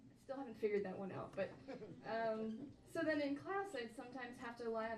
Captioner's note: audience members laugh